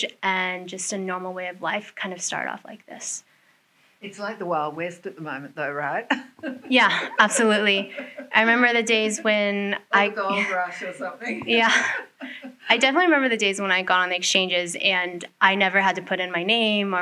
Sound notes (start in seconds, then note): 6.1 chuckles; 10.2 laughs